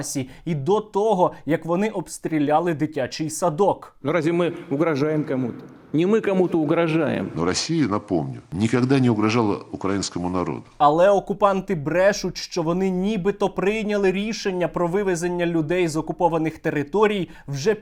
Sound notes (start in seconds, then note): 7.2 Lavrov's voice